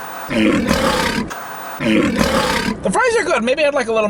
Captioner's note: growling